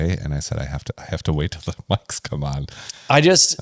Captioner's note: laughs